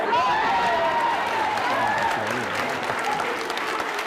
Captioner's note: crowd cheers and applauds